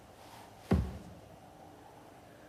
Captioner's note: tap; wind whipping; tap